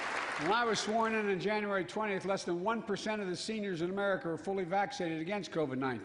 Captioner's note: applause